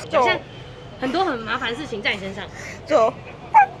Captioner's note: panting sounds